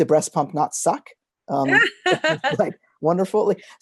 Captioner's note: laughter